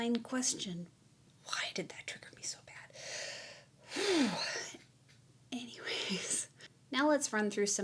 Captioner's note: sigh